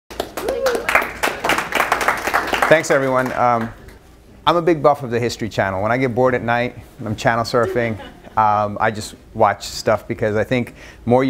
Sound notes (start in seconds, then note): 0.1 applause